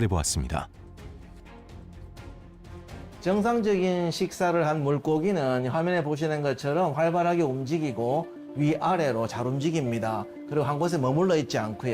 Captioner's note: voiceover